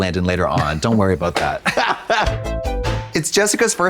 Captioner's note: Trixie chuckles